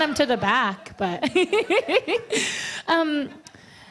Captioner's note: laughs